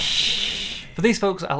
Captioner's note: creepy hissing